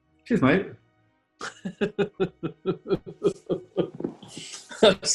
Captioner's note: chuckling